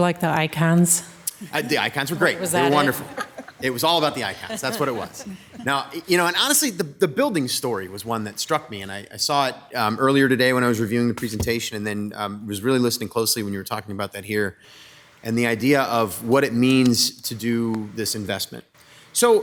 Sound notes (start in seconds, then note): 3.6 council members laughing